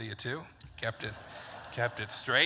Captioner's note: laughter